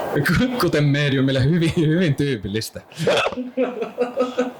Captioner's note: laughter